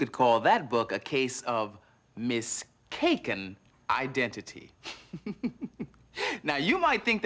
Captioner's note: giggles